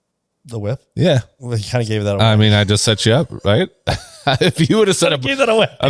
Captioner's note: laughs